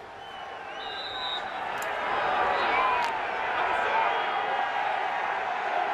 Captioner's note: whistle